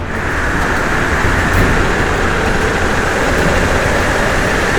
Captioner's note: fan whirs into action